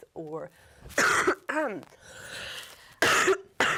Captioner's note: coughing